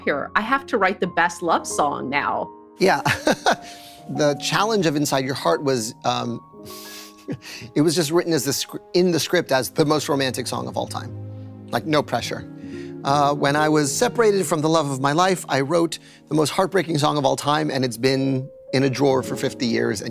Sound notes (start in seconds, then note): 3.0 laughs